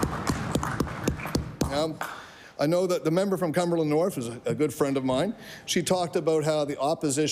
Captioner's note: applause